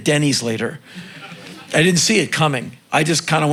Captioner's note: crowd laughing